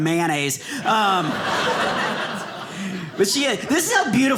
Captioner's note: audience laughing